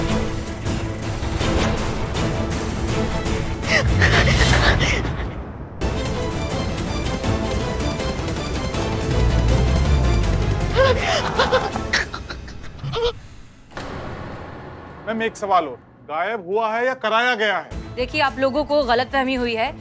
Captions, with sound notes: [breathing heavily] [dramatic music] [breathing heavily] Madam, one more question. Disappeared or made so? Look, it's all a misunderstanding.